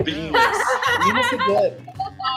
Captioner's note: group laughs